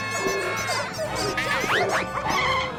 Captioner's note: costumes squeaking; tires screech